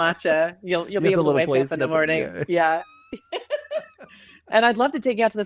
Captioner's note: laughs